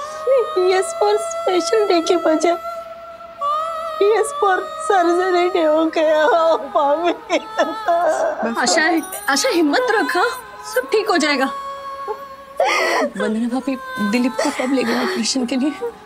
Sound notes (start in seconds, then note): 6.1 crying; 11.0 sobbing